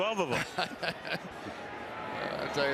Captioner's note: laughs